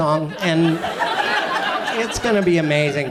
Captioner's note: audience laughs